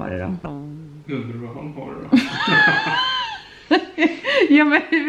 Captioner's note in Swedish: båda skrattar